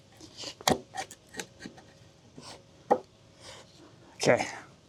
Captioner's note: wood thudding